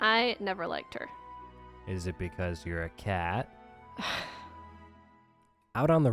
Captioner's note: sigh